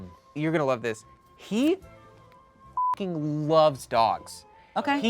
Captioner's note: beep